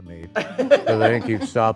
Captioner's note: group laughing